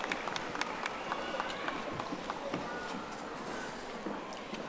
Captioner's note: audience applauding